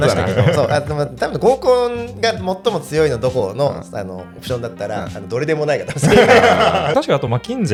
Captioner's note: laughs